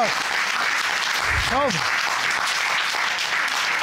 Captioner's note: audience applauding